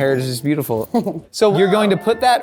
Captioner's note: chuckles